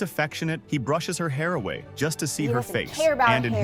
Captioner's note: With Aussie accent